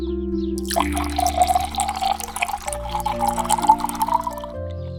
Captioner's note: liquid pouring into glass of water